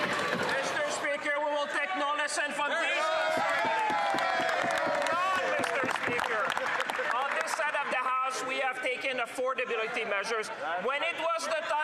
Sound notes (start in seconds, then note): 3.0 some Applause; 4.7 speaking French